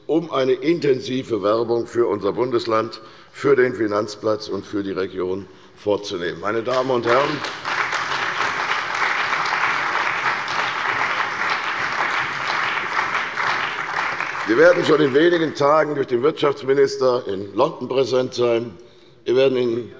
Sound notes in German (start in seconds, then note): 8.7 Beifall bei der CDU und dem BÜNDNIS 90/DIE GRÜNEN